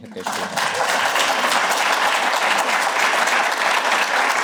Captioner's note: applause